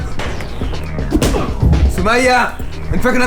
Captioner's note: punch hit